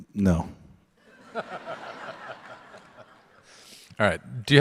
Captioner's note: audience laugh